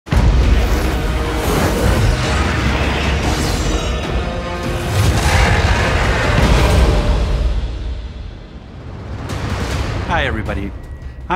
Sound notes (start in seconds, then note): 0.0 dramatic orchestral music; 4.9 roars